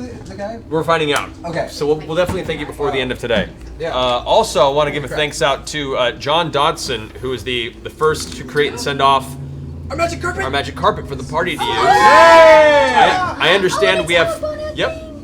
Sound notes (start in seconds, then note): 11.6 cheering